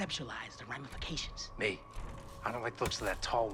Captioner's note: whispering